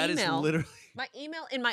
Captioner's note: laughs